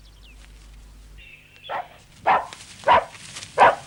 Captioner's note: barking